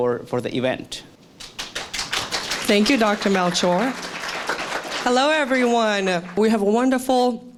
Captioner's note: applause